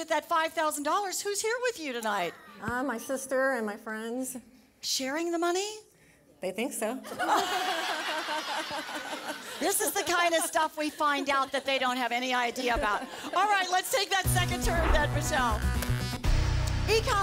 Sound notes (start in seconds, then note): 7.0 laughter